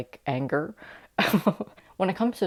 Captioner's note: laughter